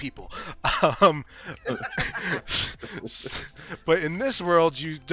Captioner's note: laughter